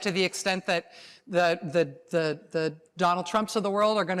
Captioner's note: none